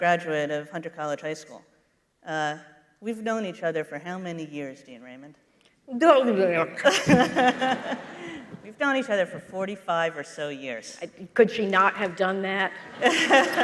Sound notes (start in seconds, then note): 6.6 making mumbling sounds and laughing